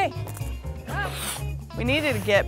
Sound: blowing

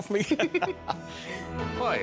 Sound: both laugh

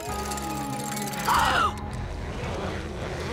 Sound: gasping

